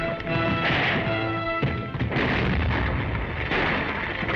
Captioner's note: explosions booming